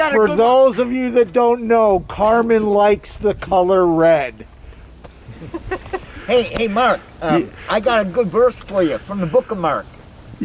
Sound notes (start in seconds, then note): 5.3 laughing